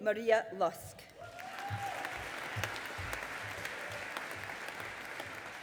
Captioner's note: audience applauding